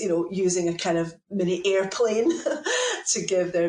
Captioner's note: laughs